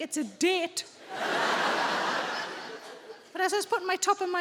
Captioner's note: audience laughing